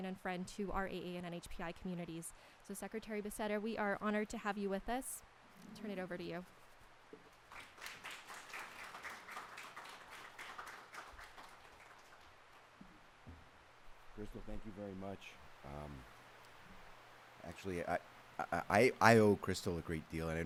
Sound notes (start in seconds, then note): 7.4 applause